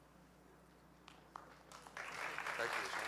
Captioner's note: audience applauding